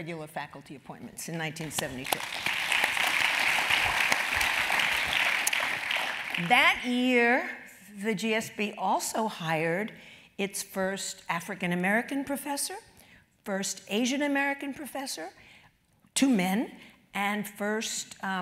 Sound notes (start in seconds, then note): 4.8 applause